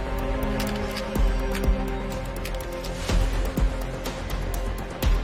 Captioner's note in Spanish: Clics